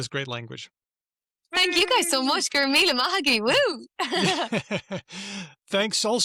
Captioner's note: laughs